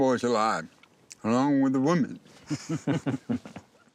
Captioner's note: chuckling